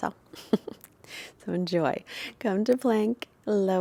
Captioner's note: chuckles